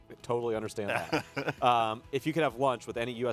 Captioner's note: laughs